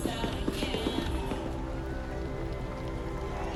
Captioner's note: crowd cheers